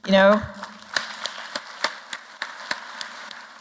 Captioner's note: applause